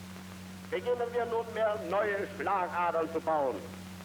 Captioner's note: speaking German